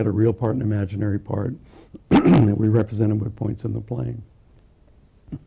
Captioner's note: cough